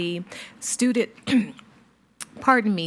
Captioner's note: clears throat